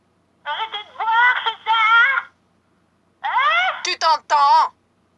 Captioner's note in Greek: φωνή μαγισσας